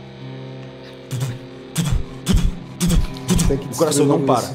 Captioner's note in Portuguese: <i>tutututu</i>